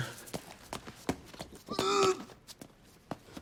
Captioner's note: gags